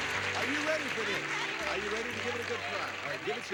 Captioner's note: audience applauding